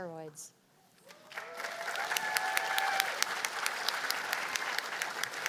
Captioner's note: cheers and applause